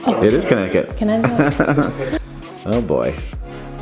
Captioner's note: laughing